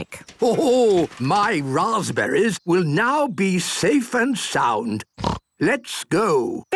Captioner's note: snort